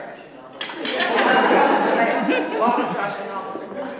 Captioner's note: laughter